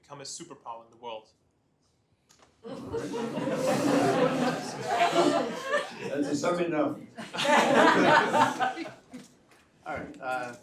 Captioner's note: laughter